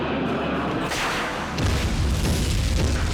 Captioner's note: fiery boom